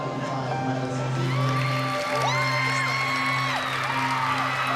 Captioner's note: cheering